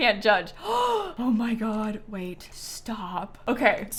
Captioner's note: gasps